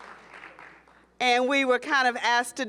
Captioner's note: applause